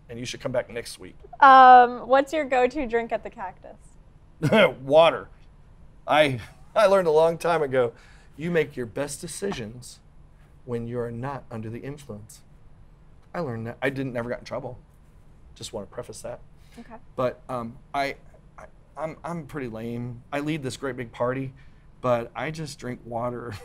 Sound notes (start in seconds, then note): 4.4 chuckles